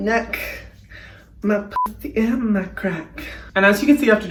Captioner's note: beep